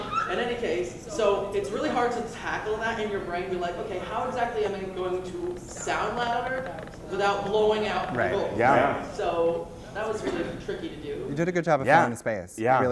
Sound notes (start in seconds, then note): 0.0 laughter; 8.9 voiceover